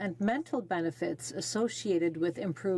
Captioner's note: speaking French